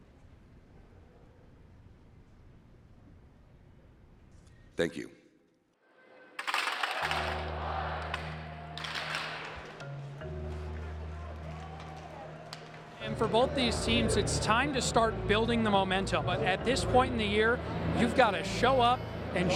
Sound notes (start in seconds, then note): 6.7 sticks clanking; 10.1 dramatic music